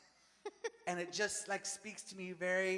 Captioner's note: Maria laughs